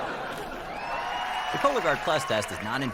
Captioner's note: audience: laugh track; audience: applause